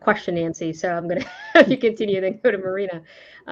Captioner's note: laughs